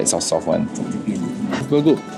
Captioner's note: noms